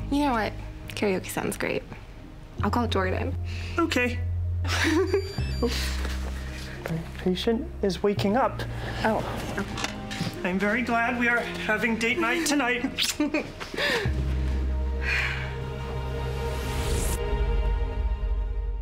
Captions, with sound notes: Karaoke sounds great. I'll call Jordan. OK. [laughs] [phone rings] My patient is waking up. Oh. I'm very glad we are having date night tonight. [kiss] [chuckles] [sighs] [slow tempo music]